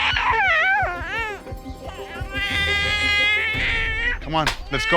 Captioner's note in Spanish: Llanto del bebé